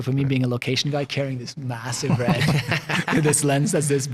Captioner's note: all laughing